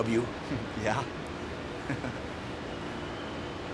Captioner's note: chuckles